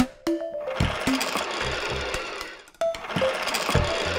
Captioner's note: toy buzzing